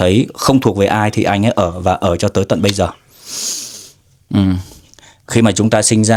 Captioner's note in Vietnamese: khịt mũi